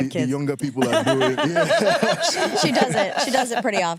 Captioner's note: laughs